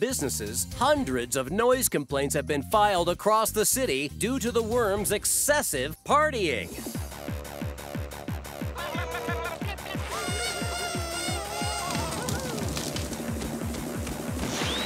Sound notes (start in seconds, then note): 6.4 music playing, laughing; 9.9 horns blowing